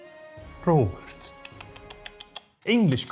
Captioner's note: tutting in faux Scottish disaproval